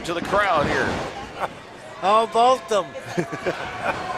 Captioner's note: laughing